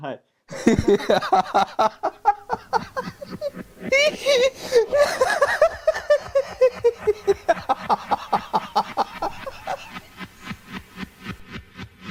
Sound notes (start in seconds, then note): 1.7 loud laughter